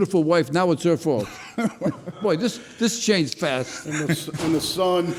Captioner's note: laughs